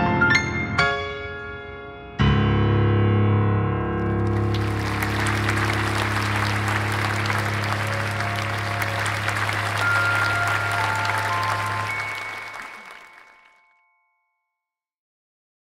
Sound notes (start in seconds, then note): 4.4 applause